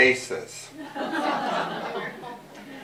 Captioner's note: laughter